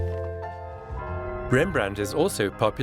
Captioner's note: bells sound